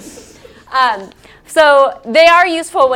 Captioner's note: laugh